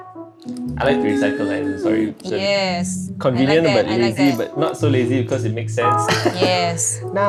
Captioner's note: laughs